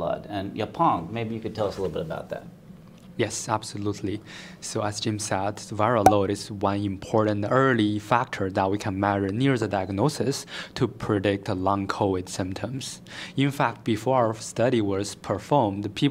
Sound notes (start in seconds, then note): 6.0 pop